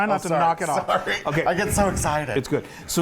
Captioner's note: laugh